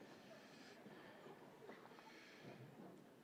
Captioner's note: none